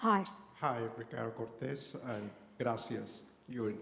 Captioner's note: non-english speech